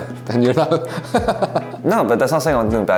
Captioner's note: laughs